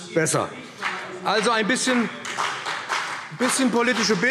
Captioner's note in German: Beifall BÜNDNIS 90/DIE GRÜNEN und CDU